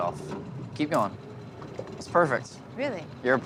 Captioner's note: snap